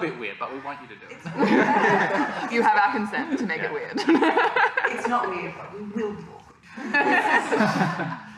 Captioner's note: laughter